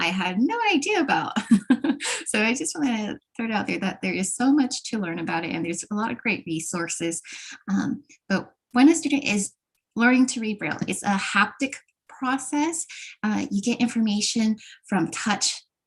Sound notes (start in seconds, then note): 1.3 laughter